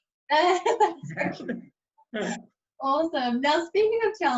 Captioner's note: laughing loudly